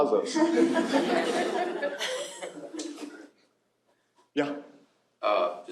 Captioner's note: laughter